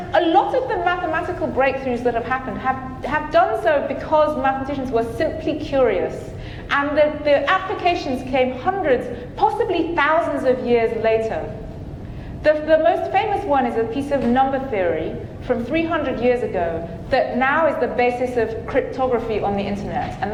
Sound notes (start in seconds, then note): none